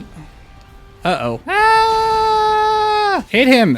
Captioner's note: screaming